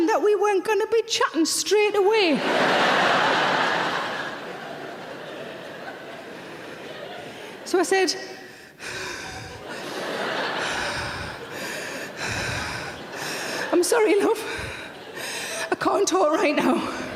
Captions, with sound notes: that we weren't gonna be chatting straight away. (audience laughing) So I said, (breathing heavily) I'm sorry, love, I can't talk right now.